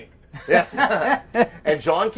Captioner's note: all laughing